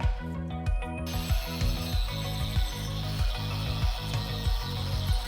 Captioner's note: drill whirring